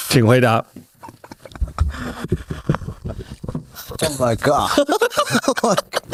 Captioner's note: laughs